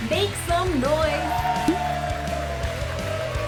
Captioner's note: applause